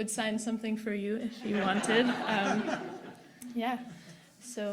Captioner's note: audience laughing